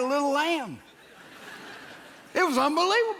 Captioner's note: audience laughs